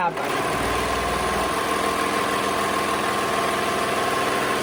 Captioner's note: machine whirring